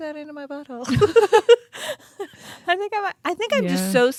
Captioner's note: both laugh